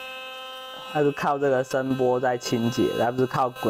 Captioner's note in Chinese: 震動